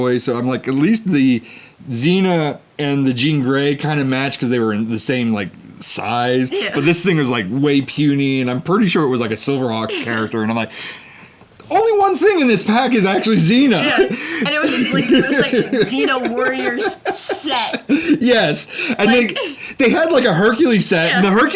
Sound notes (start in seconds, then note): 13.6 laughs